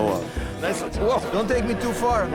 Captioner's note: speaking off mic